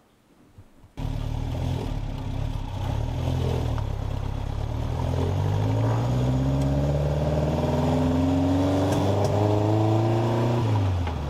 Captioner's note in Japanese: エンジン音